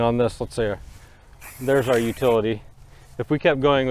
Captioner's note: paint sprays